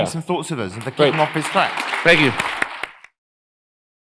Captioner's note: applause